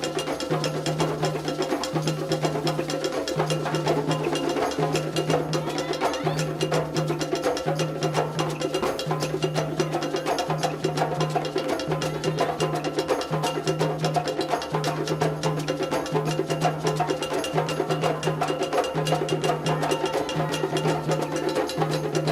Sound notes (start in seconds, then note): 5.4 dancer exclaiming; 12.0 woman exclaiming; 19.5 people exclaiming